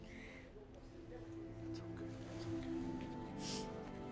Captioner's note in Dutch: Tommy whispers